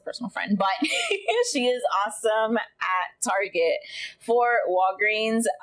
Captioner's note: laughs